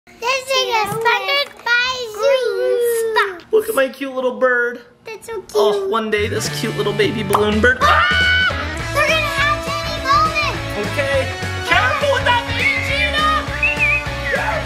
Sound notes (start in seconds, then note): 7.4 balloon pops; 7.8 screaming; 13.2 screaming